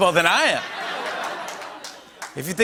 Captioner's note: laughter